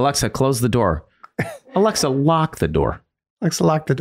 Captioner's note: Charlie laughs